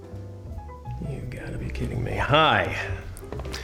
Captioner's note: muttering